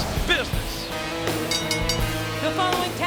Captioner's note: bell dinging